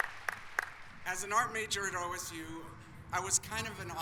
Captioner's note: applause